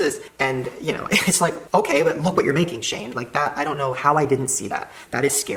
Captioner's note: laughs